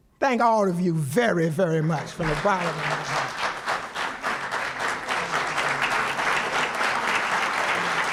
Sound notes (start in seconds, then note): 3.9 applause